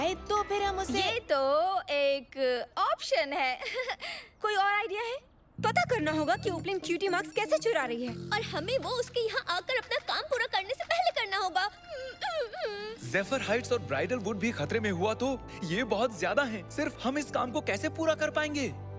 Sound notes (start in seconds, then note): 3.1 nervous laughter; 11.9 whimpering